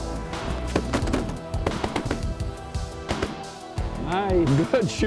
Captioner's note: gun shots